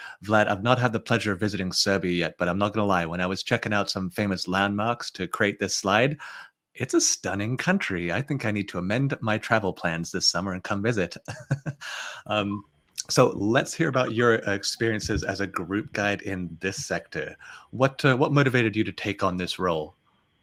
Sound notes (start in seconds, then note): 11.1 chuckles